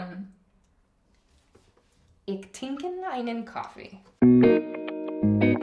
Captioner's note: foreign language